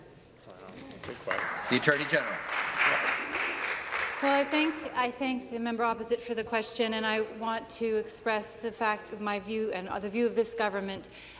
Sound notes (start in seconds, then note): 3.3 applause